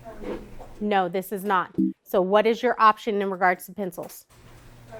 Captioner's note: error sound